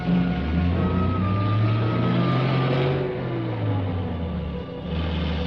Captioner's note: engine rumbling